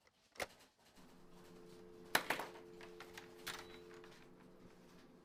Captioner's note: phone click and beeps